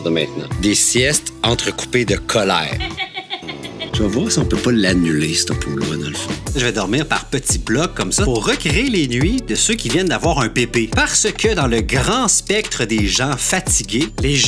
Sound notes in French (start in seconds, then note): 2.6 rire